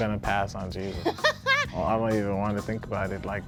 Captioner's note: laughing